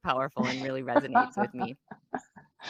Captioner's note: laughs